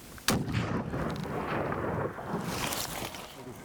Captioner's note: rifle shot